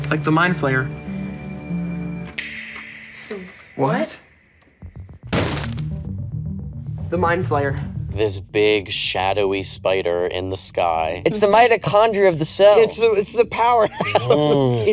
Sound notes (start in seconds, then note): 2.2 finger snaps; 5.2 suspenseful music; 5.3 book thuds